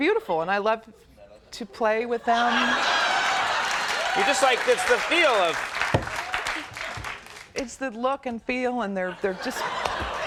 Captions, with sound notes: and they're beautiful and I love to play with them. (audience howling and cheering) It's the feel of... It's the look and feel and they're, they're just...